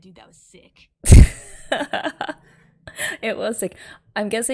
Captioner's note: laughs